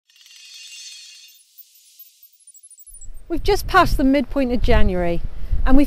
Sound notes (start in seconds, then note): 0.1 trill of bells